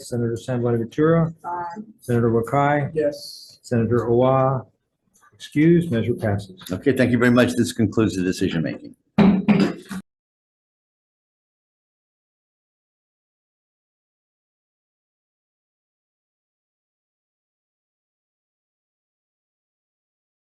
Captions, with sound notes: Senator San Buenaventura? - Aye. - Senator Wakai? - Yes. Senator Awa excused, measure passes. - Okay, thank you very much. This concludes the decision making. (gavel tapping)